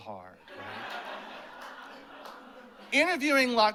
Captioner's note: laughter